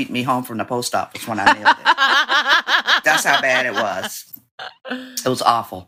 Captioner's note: laughter